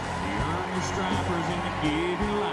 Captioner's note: applause; cheering